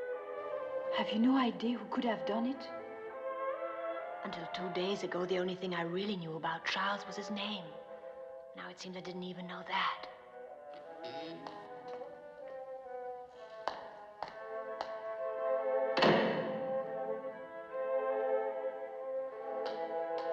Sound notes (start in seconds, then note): 15.9 door Closes